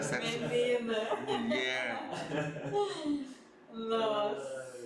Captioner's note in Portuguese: risos